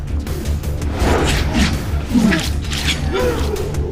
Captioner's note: whooshing